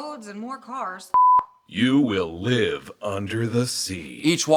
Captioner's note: beep